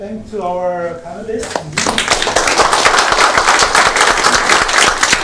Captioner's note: applause